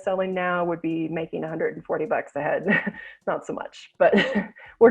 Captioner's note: chuckles